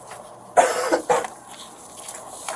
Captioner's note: coughs